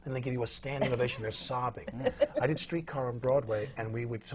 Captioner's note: laughs